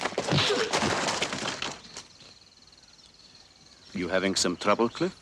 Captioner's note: thud of punch landing